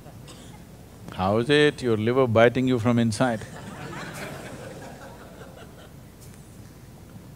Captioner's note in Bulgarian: Смях